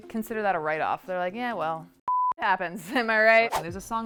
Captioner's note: beep